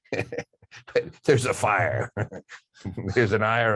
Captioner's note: laughing